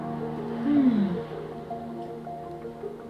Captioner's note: grunts